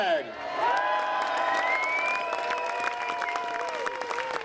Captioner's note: applause